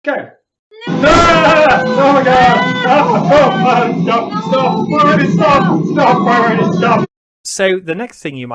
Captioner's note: screaming